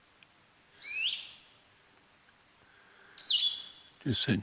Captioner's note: bird tweeting